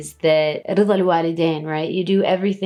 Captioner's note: speaks in foreign language